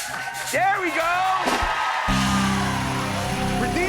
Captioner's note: cheers and applause